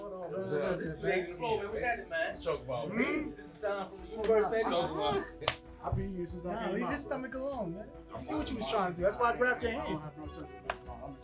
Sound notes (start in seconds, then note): 5.4 hands slapping